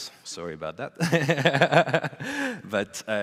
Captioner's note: laughs